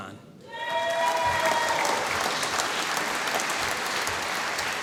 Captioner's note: applause